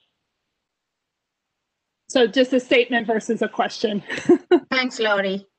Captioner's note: laughter